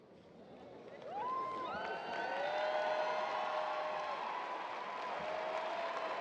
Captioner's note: audience cheering and applauding